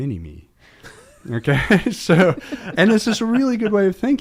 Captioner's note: all laugh